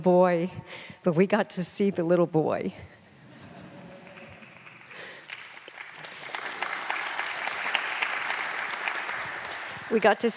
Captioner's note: laughter/Applause